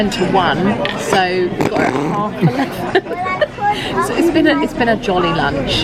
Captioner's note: laughs